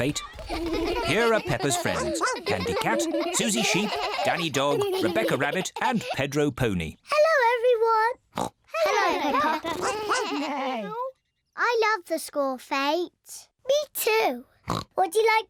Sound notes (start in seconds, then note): 8.2 all make animal noises; 8.3 oinks; 14.6 oinks